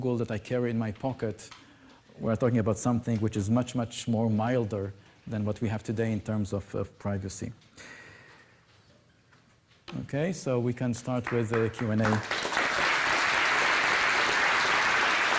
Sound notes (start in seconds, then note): 11.2 applause